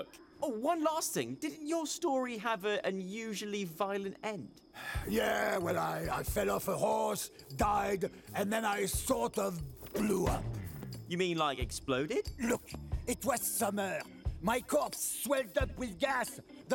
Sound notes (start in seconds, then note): 4.7 sighs